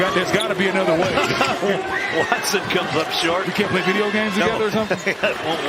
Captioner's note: laughter